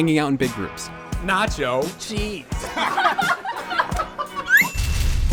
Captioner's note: laughter